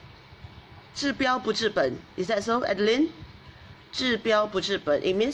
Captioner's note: speaks in foreign language